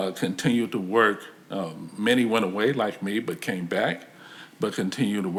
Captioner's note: none